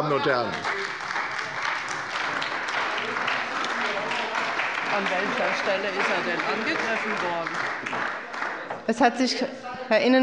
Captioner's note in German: Beifall bei Abgeordneten der CDU - Zurufe und Gegenrufe